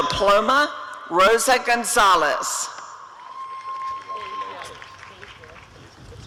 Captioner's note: applause and cheering